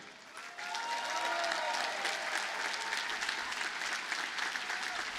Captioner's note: audience cheers and applauds